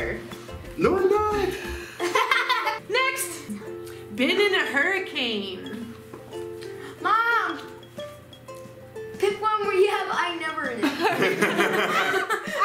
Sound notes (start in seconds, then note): 1.5 laughing; 10.9 laughing